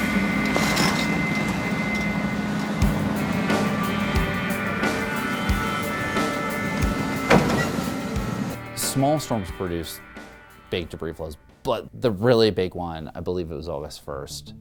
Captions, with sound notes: [sound of excavator digging] Small storms produce big debris flows, but the really big one, I believe it was August 1st,